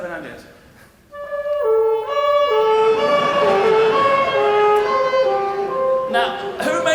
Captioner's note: ambulance effect